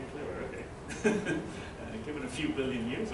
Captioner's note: laughter